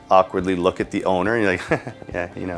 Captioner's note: chuckles